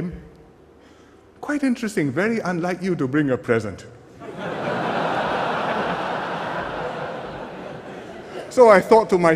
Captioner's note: laughter